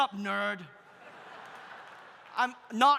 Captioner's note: audience laughs